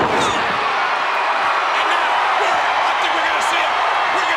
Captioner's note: crowd cheering